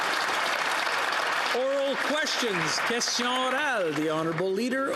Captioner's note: applause